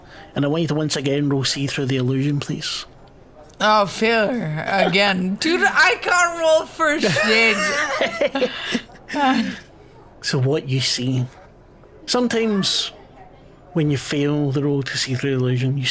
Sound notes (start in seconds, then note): 7.0 both laugh